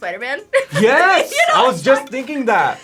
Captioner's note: laughs